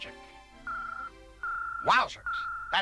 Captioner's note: ringing